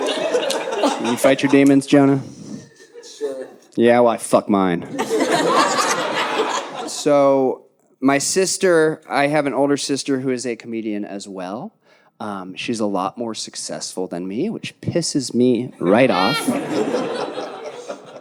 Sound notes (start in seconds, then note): 4.9 audience laughing; 15.8 audience laughing